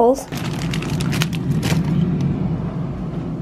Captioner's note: plastic crinkling